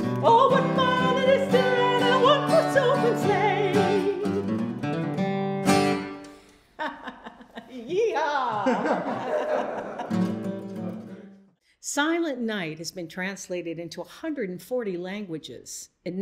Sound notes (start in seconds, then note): 4.2 playful guitar music; 6.7 laughing